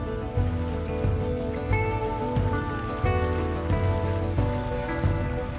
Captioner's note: waves splashing on boat